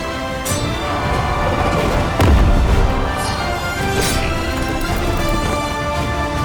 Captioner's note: warriors shouting; blade clinking